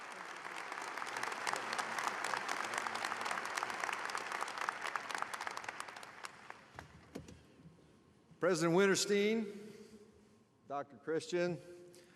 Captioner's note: applause